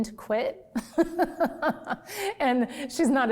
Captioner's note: laughs